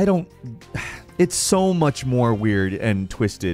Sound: sighs

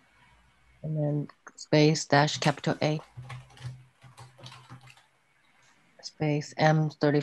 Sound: keyboard clattering

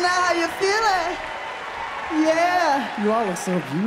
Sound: audience cheering and applause

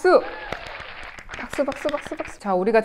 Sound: clap clap clap!!!

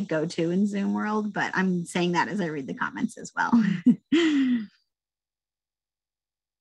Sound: laughs

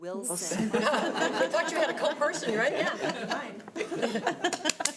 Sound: audience applauding

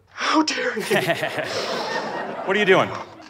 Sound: laughs

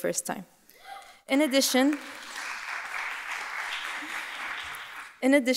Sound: audience applauding

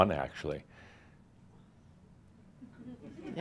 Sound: slight pause

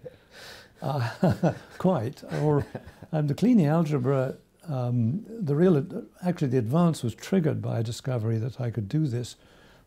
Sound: laughs

